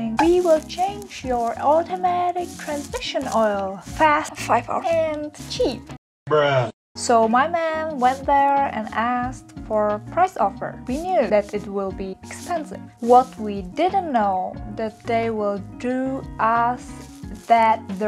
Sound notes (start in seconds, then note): 4.2 whisper